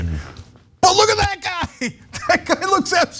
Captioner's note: laugh